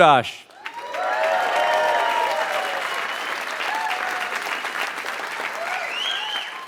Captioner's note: applause